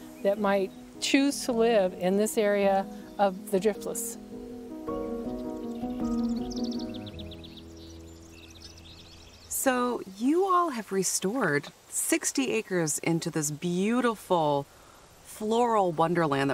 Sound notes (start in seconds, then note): 5.2 birds chirping; 5.2 gentle music